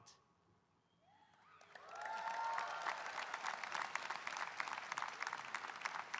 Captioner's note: audience cheering and applauding